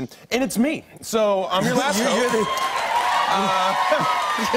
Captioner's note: cheers and applause